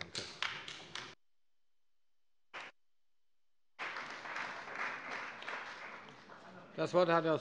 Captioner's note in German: Beifall bei dem BÜNDNIS 90/DIE GRÜNEN und der CDU